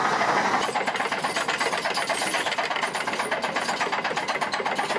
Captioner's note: trencher clunks